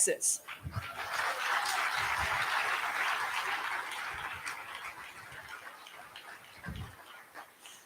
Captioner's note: applause